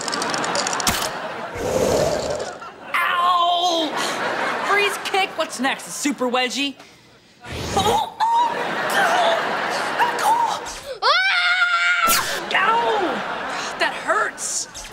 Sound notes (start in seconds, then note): 8.6 moaning; 11.0 screaming